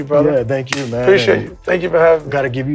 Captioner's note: hands slapping